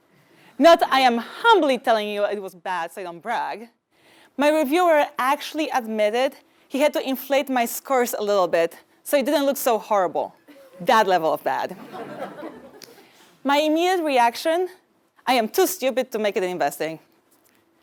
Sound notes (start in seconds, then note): 11.8 laugh